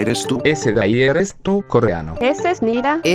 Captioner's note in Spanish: Korean